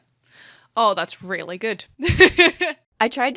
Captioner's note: laughs